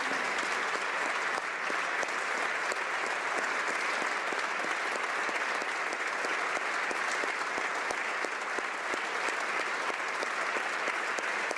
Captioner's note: applause